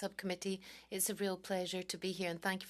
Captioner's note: speaking French